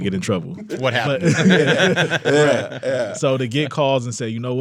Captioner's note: all laughing